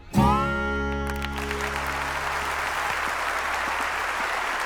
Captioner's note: audience applauding